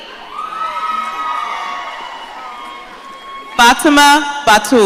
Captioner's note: audience cheering